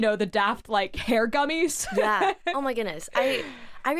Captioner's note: laughs